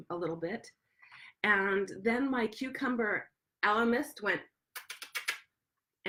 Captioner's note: kiss sounds